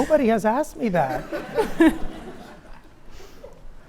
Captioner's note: laughs